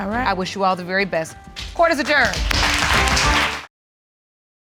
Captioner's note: applause